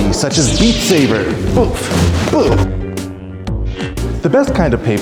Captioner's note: light saber sounds